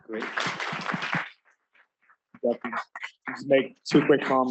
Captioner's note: applause